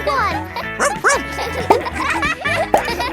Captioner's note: barks